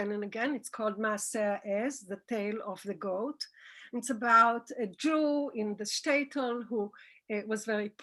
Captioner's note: Hebrew